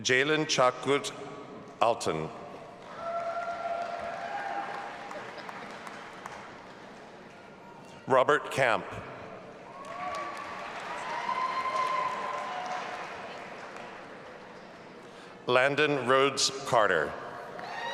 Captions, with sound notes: Ceylan Cakit Altun. (audience applauding) Robert Camp. (audience applauding and cheering) Landon Rhodes Carter.